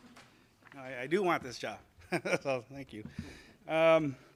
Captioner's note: laughs